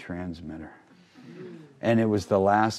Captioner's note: crowd laughing